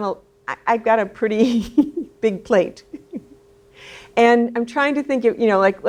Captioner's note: laughs